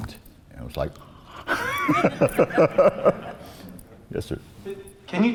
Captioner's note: laughs